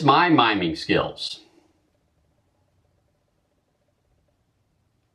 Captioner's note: sound of a mime screaming